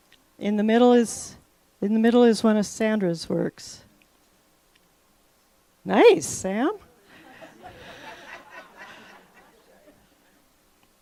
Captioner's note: laughter